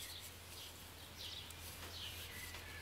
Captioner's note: birds chirping